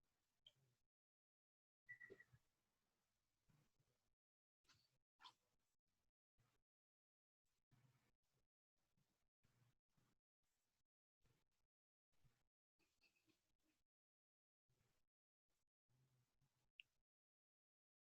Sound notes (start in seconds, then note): 0.8 silence